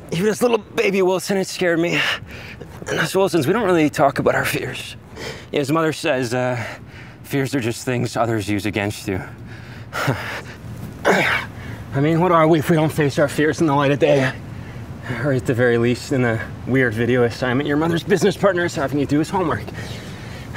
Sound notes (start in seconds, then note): 9.9 chuckles; 11.0 grunts